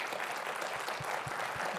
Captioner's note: audience applauds